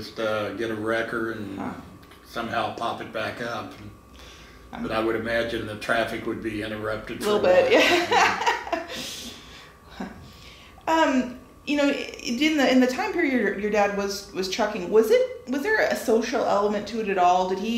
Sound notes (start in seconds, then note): 7.3 laughing